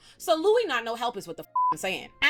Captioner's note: beep